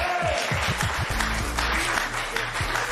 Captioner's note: cheers and applause